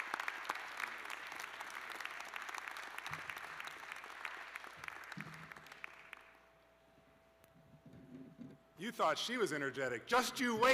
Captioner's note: applause